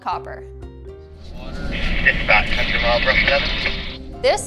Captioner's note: radio crackling